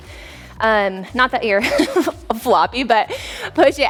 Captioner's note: chuckles